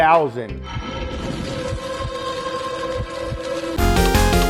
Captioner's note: fire crackling and music tone; gaming music